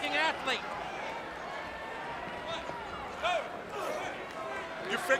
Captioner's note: crowd cheering